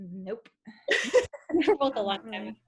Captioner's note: chuckling